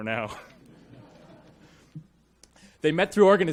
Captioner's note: audience laughs